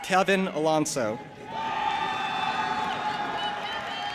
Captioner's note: audience applauding and cheering